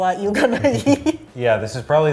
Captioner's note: laughing